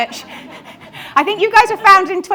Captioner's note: audience laughs; laughs